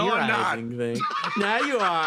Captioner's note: laugh